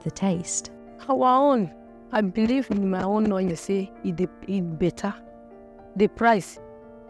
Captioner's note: speaking in foreign language